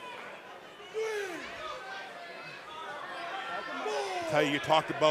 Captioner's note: crowd chatter